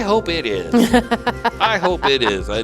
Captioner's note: laughing